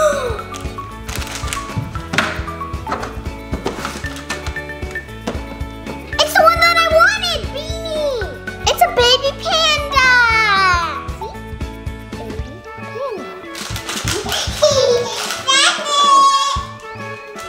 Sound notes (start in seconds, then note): 0.0 gasps; 14.0 giggling